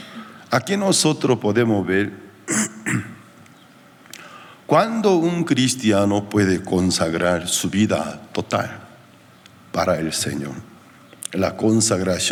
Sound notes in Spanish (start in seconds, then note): 2.4 carraspeo